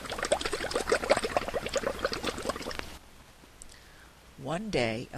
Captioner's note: sound of bubbles in water